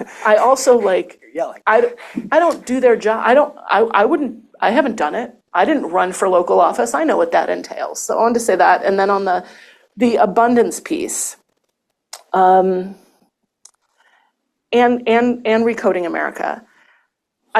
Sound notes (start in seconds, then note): 0.0 chuckles